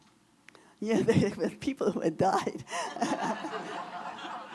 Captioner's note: audience laughter